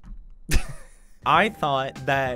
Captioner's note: chuckle